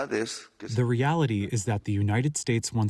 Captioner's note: through translator